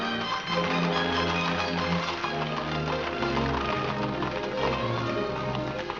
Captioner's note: upbeat music; hooves trotting; upbeat music